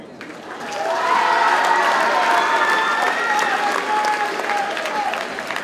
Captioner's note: audience cheers and applauds